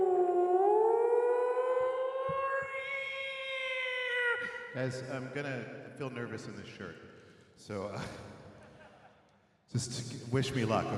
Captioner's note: screams